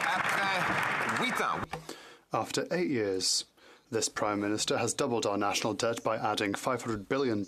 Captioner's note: some Applause